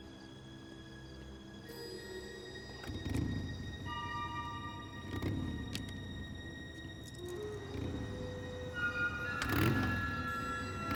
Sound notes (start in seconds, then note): 4.0 motorbike revving